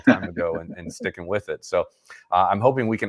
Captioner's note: laughing